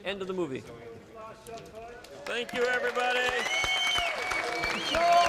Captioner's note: cheering, Applause